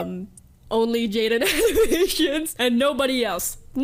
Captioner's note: laughs